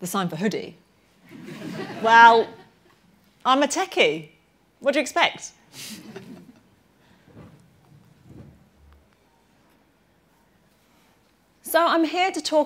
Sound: laughter

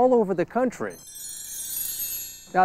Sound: SFX: chimes

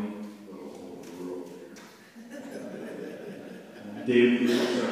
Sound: laughter

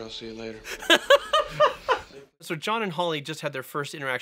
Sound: laughing

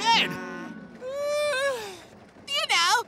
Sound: yawning

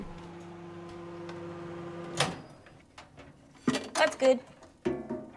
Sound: microwave whirring

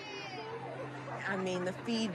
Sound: all cheering

